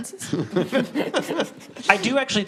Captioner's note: guests laughs